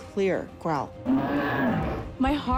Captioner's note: growling